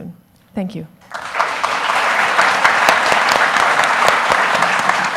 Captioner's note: audience applauds